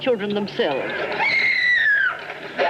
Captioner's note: screaming